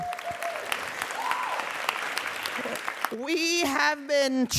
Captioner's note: crowd cheering and applauding